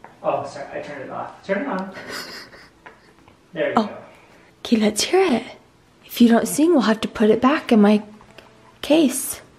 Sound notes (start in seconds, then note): 1.9 quietly chuckles